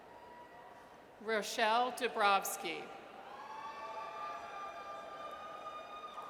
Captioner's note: audience cheers